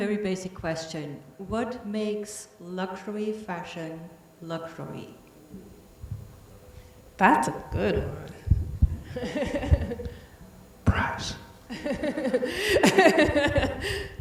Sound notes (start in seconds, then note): 9.0 laughs; 13.9 laughing